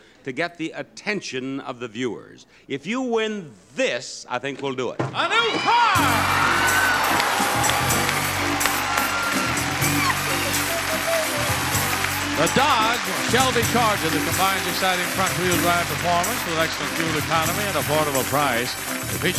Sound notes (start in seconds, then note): 7.7 applause; 7.7 cheering